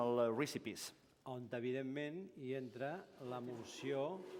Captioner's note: non-english speech